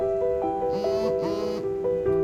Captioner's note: cell phone buzzes